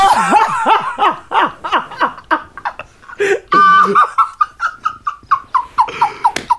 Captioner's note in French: éclat de rire